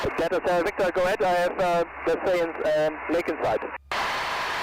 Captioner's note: German